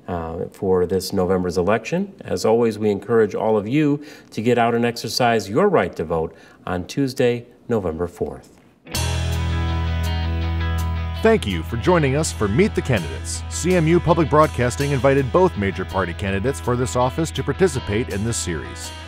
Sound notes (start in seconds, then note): 10.9 voiceover